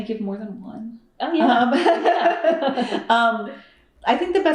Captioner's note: laughter